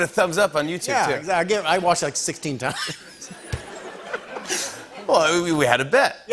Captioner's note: laughter